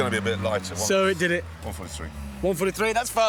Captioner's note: quietly